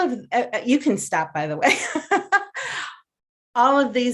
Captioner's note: laughs